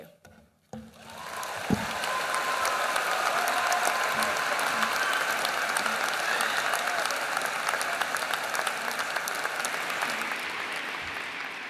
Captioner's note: applause